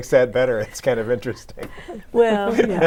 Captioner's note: laughing